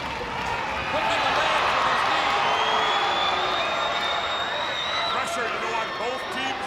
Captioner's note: crowd cheering